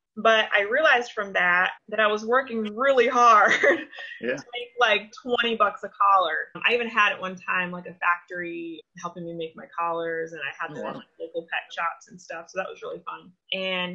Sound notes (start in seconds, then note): 3.5 laughs